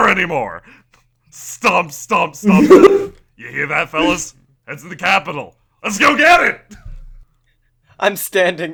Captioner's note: stomp, stomp, stomp